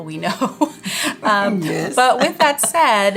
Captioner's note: women laughing; laughing